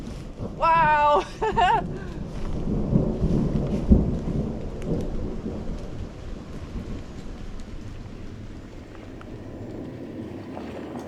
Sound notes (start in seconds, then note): 2.2 thunder continues rumbling